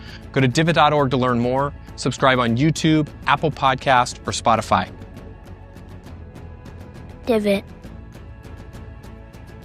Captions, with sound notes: Go to divot.org to learn more. Subscribe on YouTube, Apple Podcast, or Spotify. [Voiceover] - Divot.